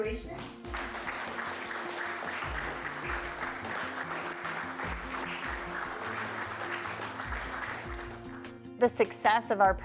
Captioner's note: applause